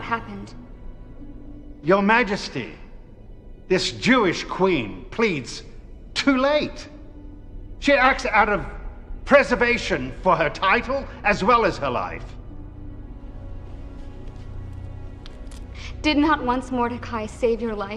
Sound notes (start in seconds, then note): none